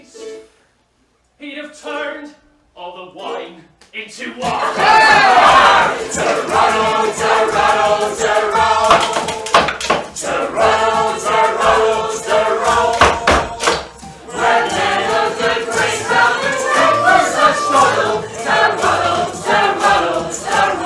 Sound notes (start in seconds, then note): 4.6 laughter